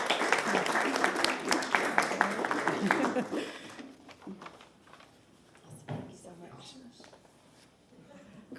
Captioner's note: applause